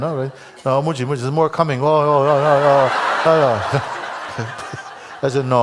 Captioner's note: Lachen